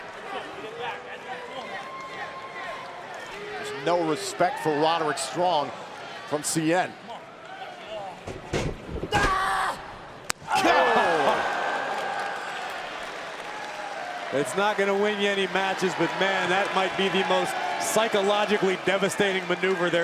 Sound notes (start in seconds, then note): 12.2 crowd cheering